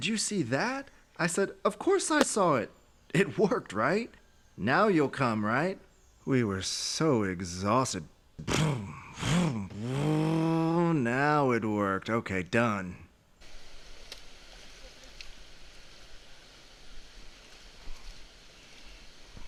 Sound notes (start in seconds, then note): 8.1 imitates engine starting; 13.4 water hissing